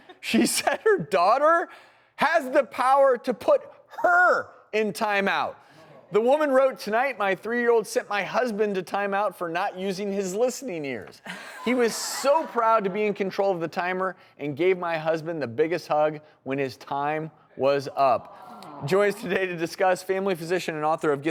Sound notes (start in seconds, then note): 11.3 audience laughter